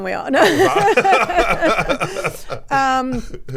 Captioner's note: everyone laughs